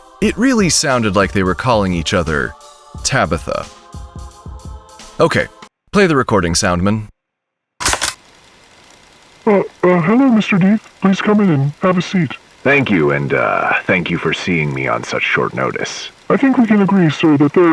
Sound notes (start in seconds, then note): 8.6 tape hiss